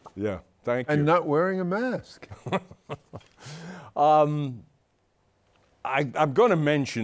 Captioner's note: laughs